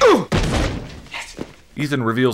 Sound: wood smash

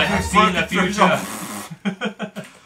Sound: giggles; dramatic music; blows raspberry

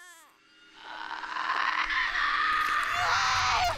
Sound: banshee shrieking

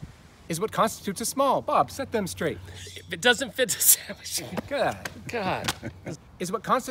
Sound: laughs

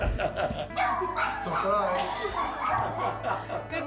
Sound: laughing

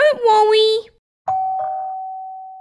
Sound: doorbell

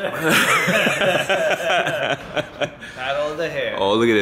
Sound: group laughing

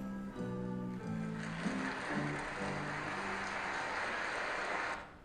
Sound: applause

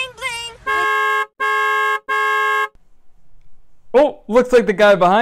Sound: car hooting continuously

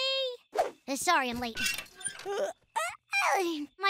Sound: yawns

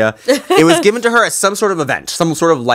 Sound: Monique laughs

